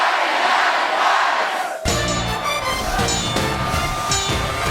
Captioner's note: cheers and applause